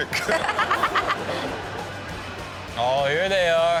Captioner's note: audience and Chanel laugh